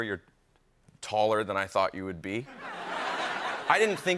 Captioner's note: laughter